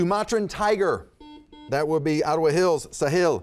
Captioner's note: buzzer buzzes